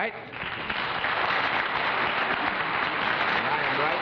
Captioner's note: applause